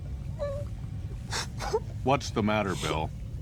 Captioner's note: <i> whimpering</i>